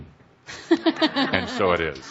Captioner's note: laughter